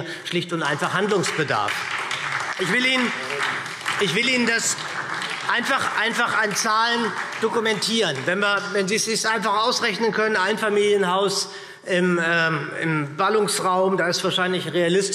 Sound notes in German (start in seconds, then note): 2.2 Beifall SPD, BÜNDNIS 90/DIE GRÜNEN und DIE LINKE